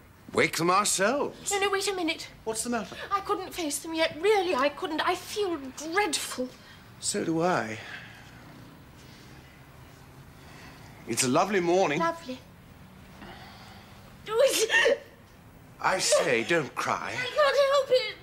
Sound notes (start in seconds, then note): 14.3 Sibyl sobs; 16.9 sobs